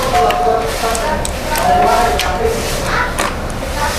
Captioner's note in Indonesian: suara bel pintu